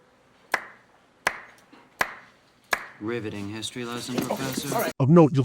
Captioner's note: slow, sarcastic clap; sarcastically